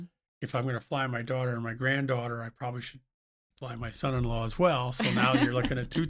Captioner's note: laughs